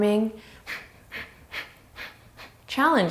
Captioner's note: inhales and exhales